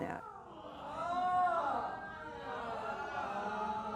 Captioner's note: yelling